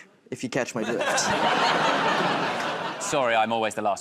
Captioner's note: laughter